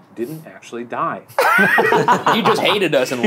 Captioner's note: all laughing